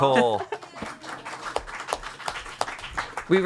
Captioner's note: everyone applauds